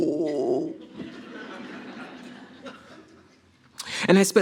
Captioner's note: audience laughs